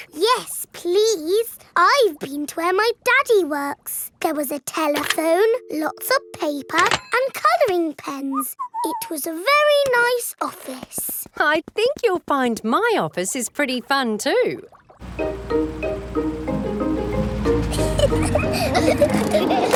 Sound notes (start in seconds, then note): 8.6 whistles; 17.5 children giggling